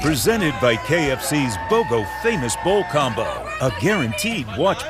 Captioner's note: crowd celebrates